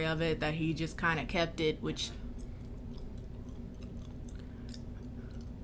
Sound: chews loudly

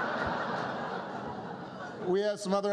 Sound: laughter

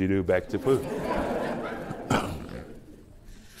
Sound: laughter

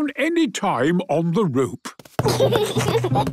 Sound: giggles

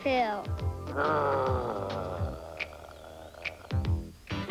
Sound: growling

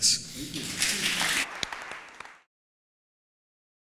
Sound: claps

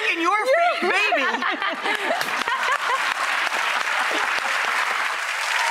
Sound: audience clapping

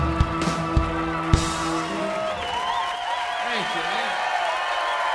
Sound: applause

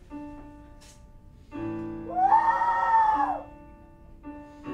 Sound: mournful screeching

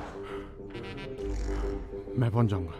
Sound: Keshav exhales

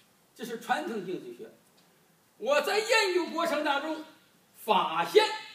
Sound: speaking foreign language

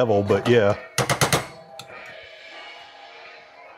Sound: cranking sound effect

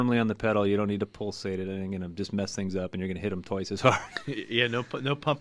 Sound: laughs

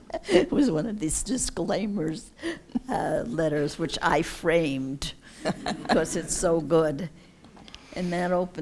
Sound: laughs

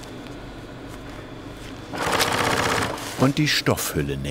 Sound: rattling of a sewing machine

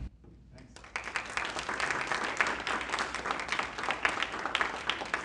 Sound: applause

